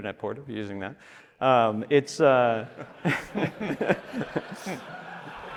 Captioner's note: audience laughing